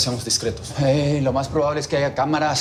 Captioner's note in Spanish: none